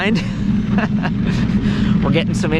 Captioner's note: laughing